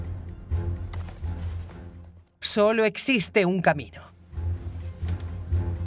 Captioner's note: hooves clomping; soldier marching